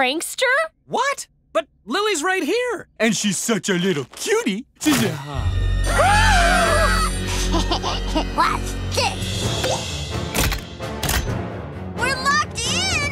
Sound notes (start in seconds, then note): 5.8 screaming; 7.3 laughing